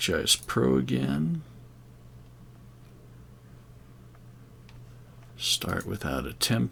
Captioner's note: silence